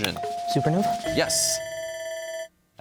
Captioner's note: bell ringing